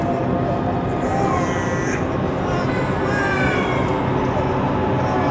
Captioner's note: babies crying